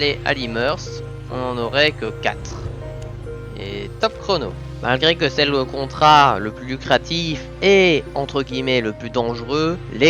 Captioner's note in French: Voix off